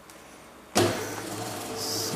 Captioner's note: buzzing